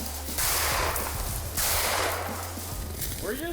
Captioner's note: gunshots firing